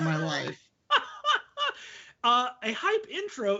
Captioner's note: laughing